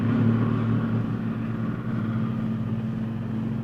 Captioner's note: vehicles approaching